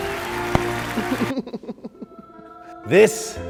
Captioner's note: laughing